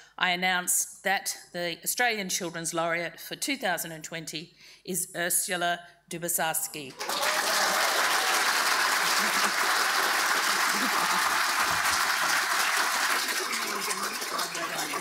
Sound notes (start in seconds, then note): 6.9 audience applauding; 6.9 audience cheering